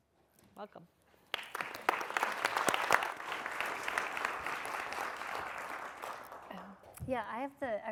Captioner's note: applause